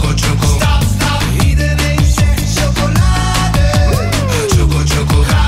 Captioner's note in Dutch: mmmm…